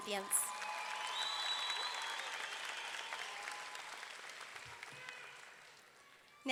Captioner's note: audience clapping; audience cheering